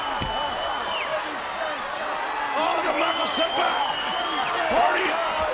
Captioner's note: audience cheering and shouting